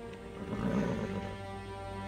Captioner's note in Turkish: At kişneme sesi